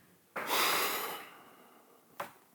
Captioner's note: long sigh